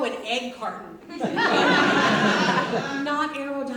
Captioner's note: audience laughs